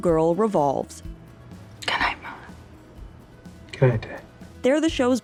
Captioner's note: whispering